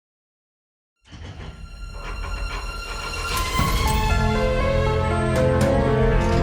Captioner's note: vault clacking; mysterious music